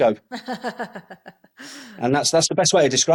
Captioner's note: laughs